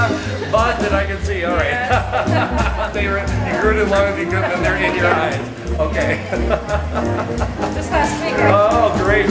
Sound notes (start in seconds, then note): 0.0 laughing; 1.8 laughing